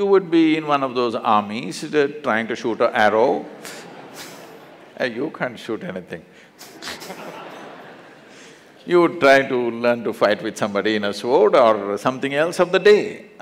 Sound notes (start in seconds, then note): 6.6 laughter